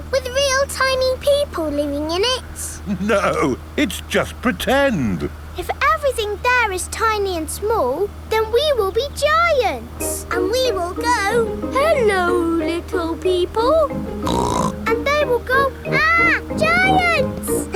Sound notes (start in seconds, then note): 14.2 snorts